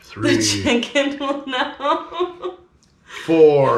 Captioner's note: chuckling